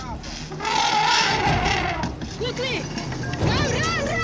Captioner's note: trumpeting